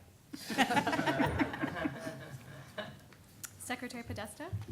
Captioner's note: laughter